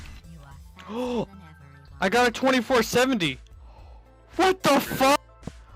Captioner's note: gasp